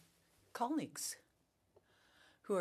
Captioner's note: speaking French